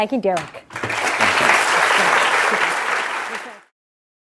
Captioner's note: applause